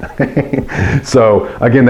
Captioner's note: laughs